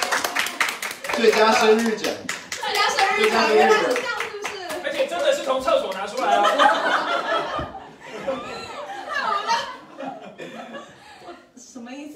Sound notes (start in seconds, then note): 6.2 everyone laughs